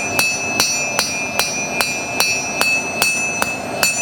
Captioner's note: bell